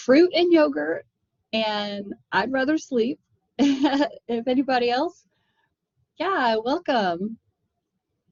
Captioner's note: laughter